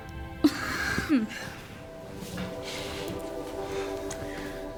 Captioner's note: Siena chuckling